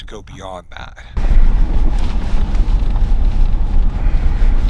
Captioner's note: engine rumbling